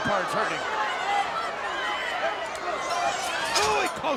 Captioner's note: crowd yelling